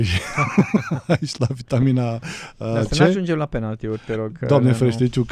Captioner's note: laughter